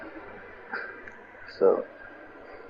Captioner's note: laughter